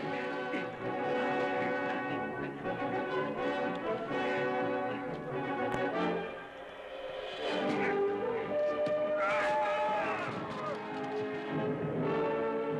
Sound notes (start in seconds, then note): 9.1 yelling